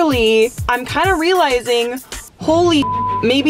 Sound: beep

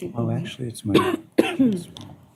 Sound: indistinct chatter

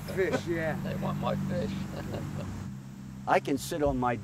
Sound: chuckles

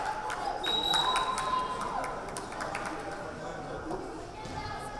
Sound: whistle blaring; crowd chattering

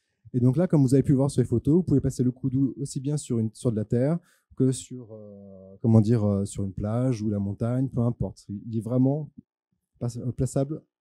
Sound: translating into french

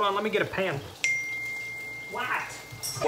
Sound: phone chimes

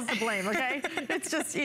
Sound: laughter

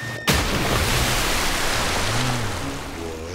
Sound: splashing

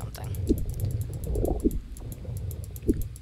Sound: mouse clicking rapidly

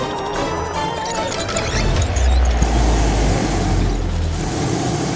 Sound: blades creaking

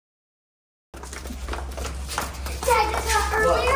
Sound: footsteps patter

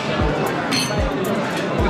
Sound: ding

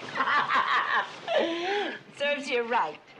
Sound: Betty laughs

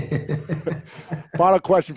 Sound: Kevin laughs

